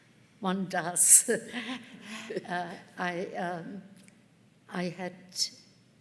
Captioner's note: chuckles